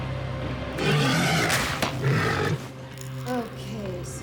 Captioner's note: animal roars